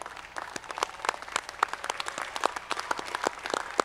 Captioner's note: audience clapping